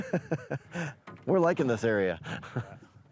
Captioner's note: laughing